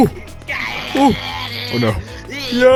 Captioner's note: gorilla noises